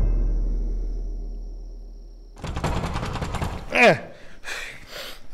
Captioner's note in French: Toc! Toc! Toc!